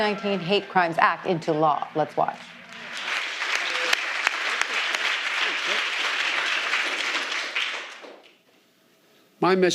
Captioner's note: applause